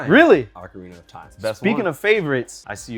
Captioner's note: murmuring